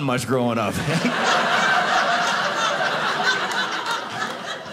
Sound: audience laughing

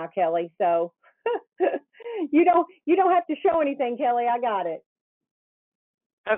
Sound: laughs

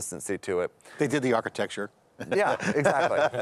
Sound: laughing

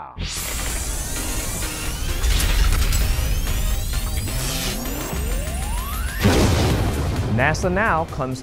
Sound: sound Effects

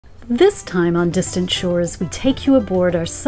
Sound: voiceover

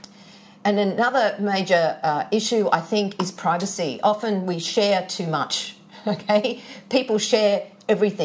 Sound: chuckles

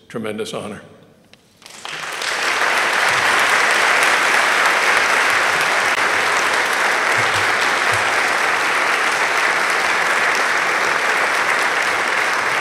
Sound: applause

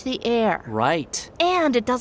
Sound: excited

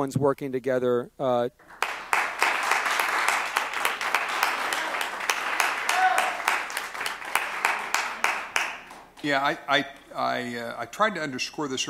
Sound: applause

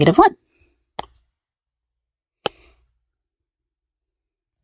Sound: marker taps

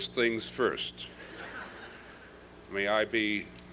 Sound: laughter

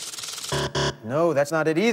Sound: buzzer

